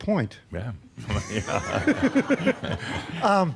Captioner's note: they chuckle